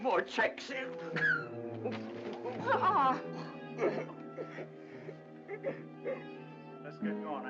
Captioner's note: Mr. Dingle sobs and makes exasperated sounds